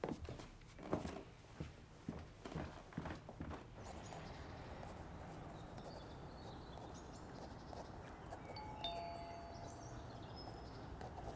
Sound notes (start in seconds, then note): 3.3 birds chirping; 8.6 doorbell rings